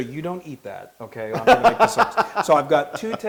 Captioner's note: laugh